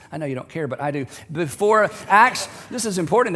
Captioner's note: laughter